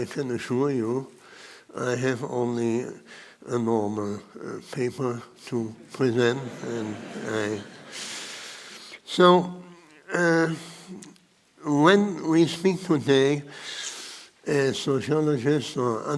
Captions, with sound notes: but I can assure you I have only a normal paper to present. (audience laughing) So, when we speak today as sociologists or anthropologists